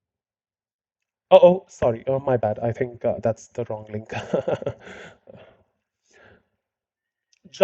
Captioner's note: fake laugh